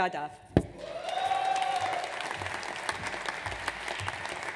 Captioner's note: audience cheers